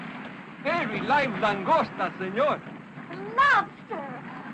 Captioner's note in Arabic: يتحدث الاسبانية